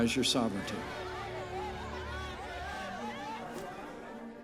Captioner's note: crowd chattering